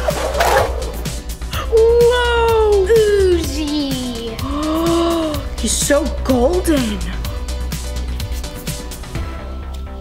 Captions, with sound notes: - Whoa! - Ooze-y. - (gasps) He's so golden.